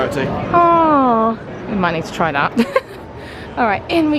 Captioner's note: laughing